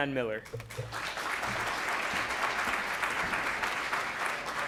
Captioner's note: clapping